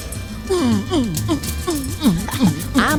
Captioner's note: guitar mimicry